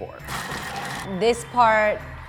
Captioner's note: Thermomix chopping